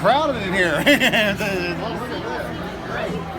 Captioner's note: laughs